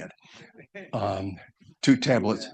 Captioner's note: audience chuckles